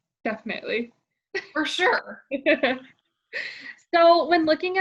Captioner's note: laughs